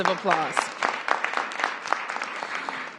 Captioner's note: applause